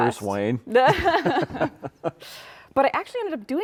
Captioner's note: laughing